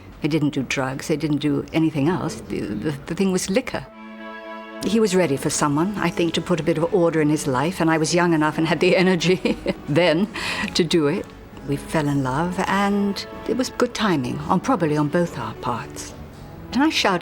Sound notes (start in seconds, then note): 9.2 chuckles